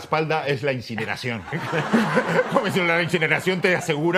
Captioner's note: laughter